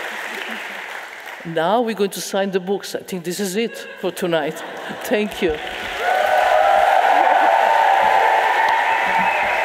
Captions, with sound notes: Now we're going to sign the books. I think this is it for tonight. Thank you. (audience cheering)